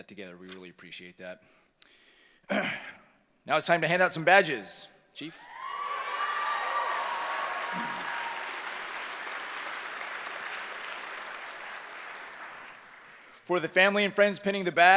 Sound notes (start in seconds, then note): 5.0 cheering